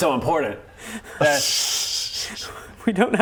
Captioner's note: whimpering